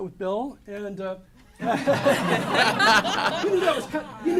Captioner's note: laughter